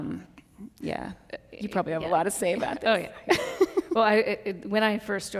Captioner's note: laughs